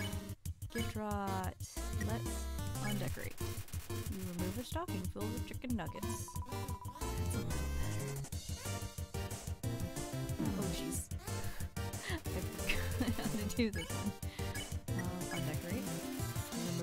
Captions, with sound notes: okay... gyftroooot... let's undecorate oh jeez-- [laughing] i forgot how to do this one uh...undecorate